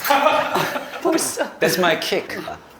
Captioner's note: chuckles